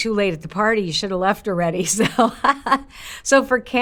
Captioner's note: laughs